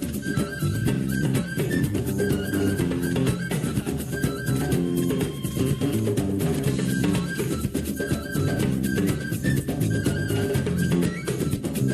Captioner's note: whistling